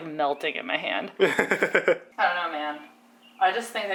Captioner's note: laughs